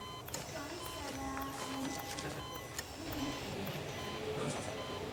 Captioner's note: "Bye, Stella" echoes